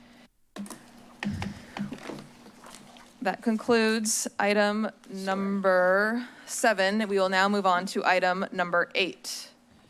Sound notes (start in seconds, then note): 1.7 rustles